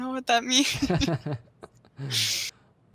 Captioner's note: chuckles